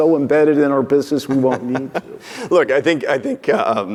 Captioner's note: laughing